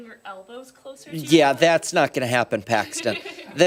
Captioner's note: laughter